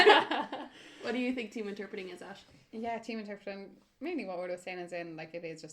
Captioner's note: laughter